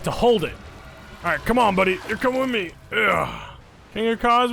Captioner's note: grunts